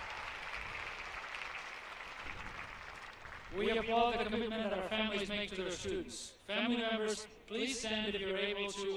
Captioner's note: applause